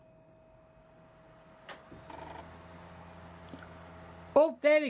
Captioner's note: laptop dvd drive spinning